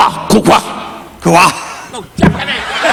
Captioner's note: Don speaking in Japanese; speaking gibberish; mic thudding